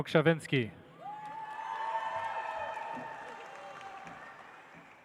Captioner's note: audience applauds